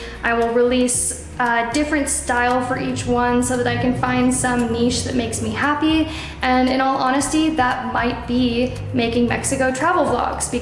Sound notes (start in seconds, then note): none